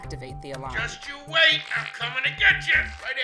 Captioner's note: fart